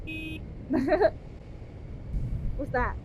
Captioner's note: horn beeping